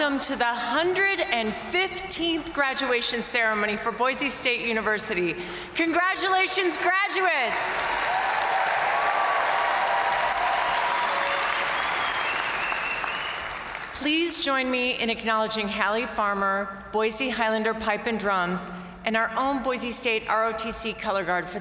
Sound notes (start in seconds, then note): 7.6 crowd applauding; 7.7 crowd cheering